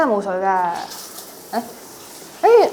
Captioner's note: flowing water